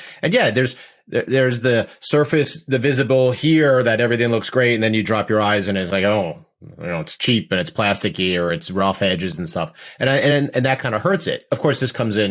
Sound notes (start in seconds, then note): 6.5 groans